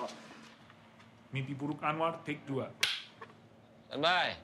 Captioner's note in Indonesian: clap